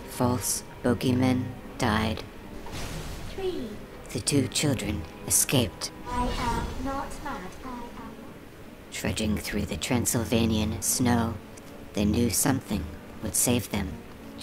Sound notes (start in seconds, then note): 2.4 the Buzzing; 2.6 small electrical explosion; 6.0 the Buzzing